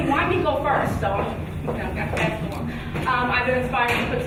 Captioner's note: speaking faintly